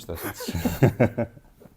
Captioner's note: laughs